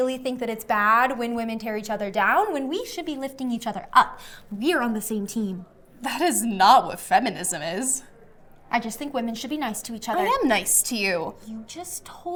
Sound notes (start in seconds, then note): 5.9 scoffing